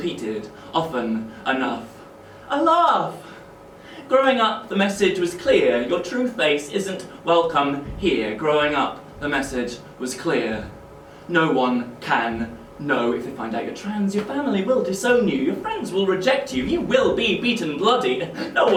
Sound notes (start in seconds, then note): none